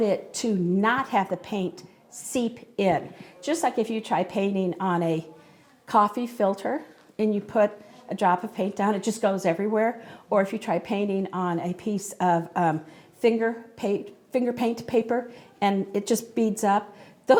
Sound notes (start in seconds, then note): none